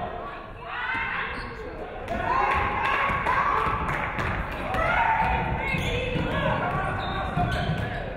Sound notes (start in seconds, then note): 2.7 audience cheering; 3.8 audience clapping